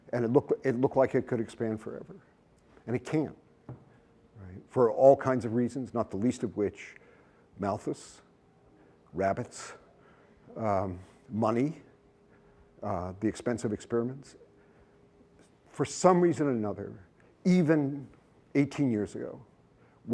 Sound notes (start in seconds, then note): none